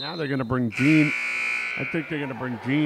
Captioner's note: whistle blows; buzzer sounds